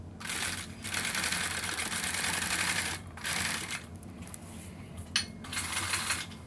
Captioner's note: sowing machine whirring